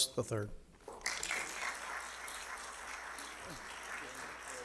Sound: audience clapping

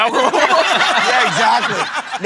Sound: laughter

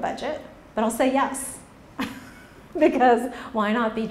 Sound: laughs

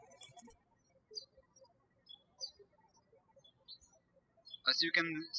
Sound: birds chirping

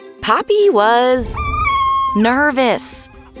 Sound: whining

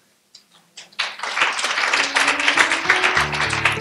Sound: applause

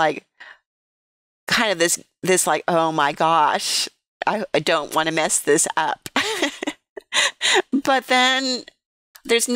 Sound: laughter

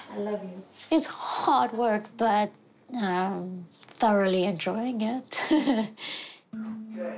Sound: chuckles; slow dramatic music

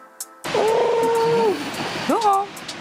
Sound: pigeon noise

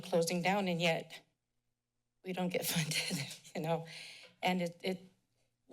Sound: chuckles

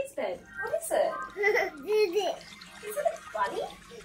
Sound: laughs

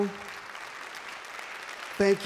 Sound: applause

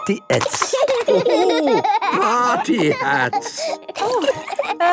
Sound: laughing

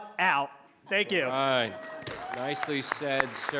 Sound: applause

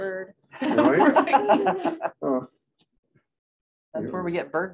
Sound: laughter

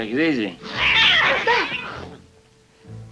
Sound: screaming

